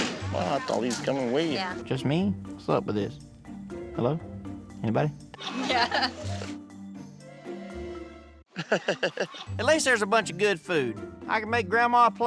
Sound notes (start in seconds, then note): 5.4 chuckling